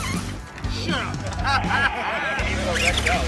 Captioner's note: laugh